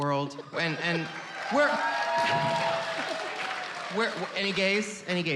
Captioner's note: cheers